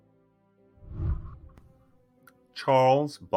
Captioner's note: whooshing